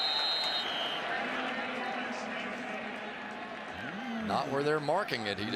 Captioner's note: whistles